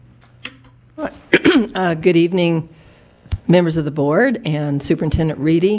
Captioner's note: clears throat